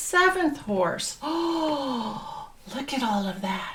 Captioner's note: gasps